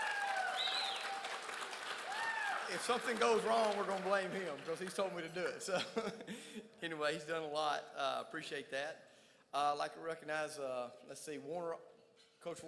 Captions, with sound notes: (crowd cheers) If something goes wrong, we're gonna blame him. Because he told me to do it, so. Anyway, he's doing a lot, appreciate that. I'd like to recognize, Werner,